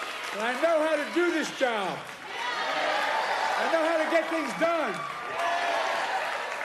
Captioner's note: applause